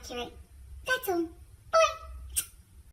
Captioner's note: smooch